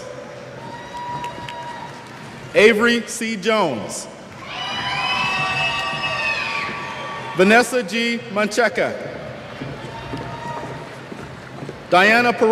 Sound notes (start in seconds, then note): 4.4 cheers